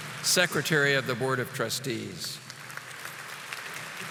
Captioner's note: audience applauding